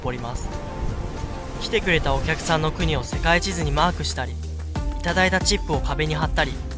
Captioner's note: none